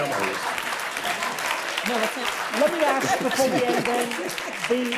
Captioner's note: audience applause